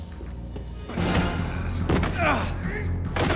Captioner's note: groan